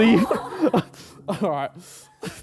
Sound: all laughing

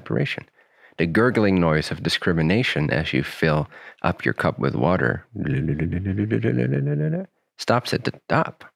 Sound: gurgling noises

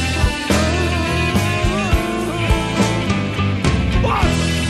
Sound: whining

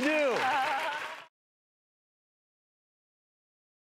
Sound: audience clapping; panelist laughs

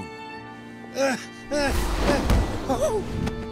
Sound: groaning

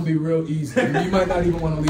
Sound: laugh

